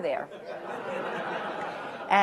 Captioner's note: laughter